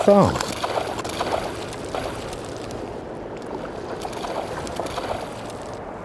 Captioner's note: lots of splashing